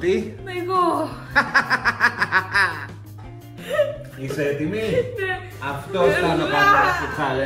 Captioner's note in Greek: γέλια